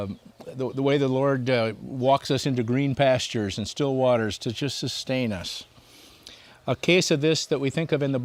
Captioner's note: birds chirping